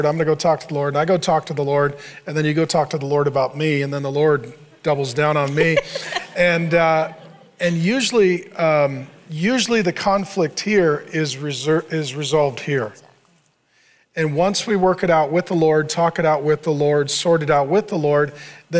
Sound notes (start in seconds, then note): 5.4 laughs